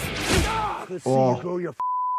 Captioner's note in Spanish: Deadpool gritando